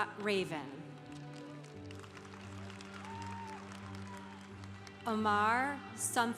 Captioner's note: congregation applauding